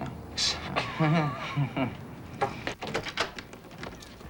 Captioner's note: chuckling